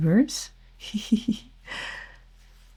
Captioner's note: chuckles